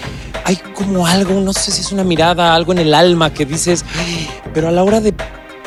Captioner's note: gasp